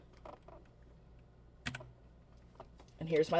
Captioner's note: keyboard clicks